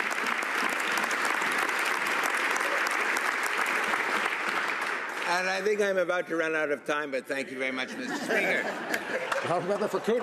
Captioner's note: some Applause